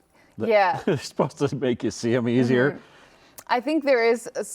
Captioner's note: laughs